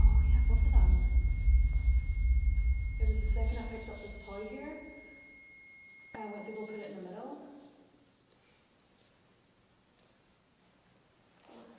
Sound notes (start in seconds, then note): 7.1 sustained ringing tone stops